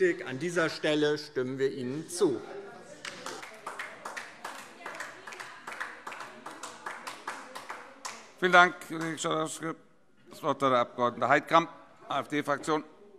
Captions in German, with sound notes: An dieser Stelle stimmen wir Ihnen zu. [Beifall DIE LINKE - Zurufe] Vielen Dank, Kollege Schalauske. - Das Wort hat der Abg. Heidkamp, AfD-Fraktion.